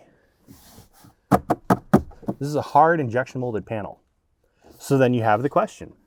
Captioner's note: bangs dashboard